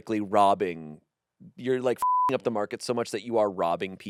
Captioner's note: beep